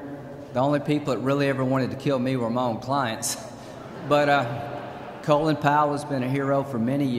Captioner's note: laughter